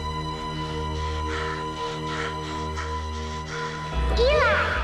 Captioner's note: Eli gasping